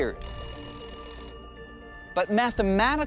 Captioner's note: phone ringing